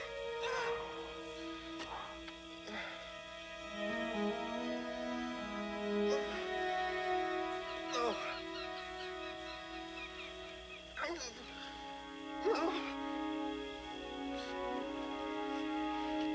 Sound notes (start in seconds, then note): 2.6 Tater grunting